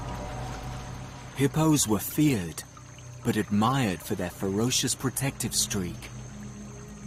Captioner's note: tense music continues; hippos growling